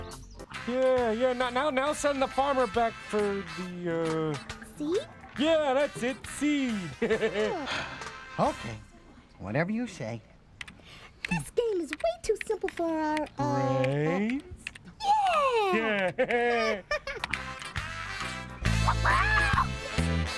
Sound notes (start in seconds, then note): 15.1 pigeons laughing; 18.8 chicken shrieks